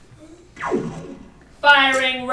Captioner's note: lazer sounds